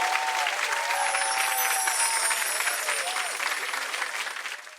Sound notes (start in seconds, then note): 0.8 wind chimes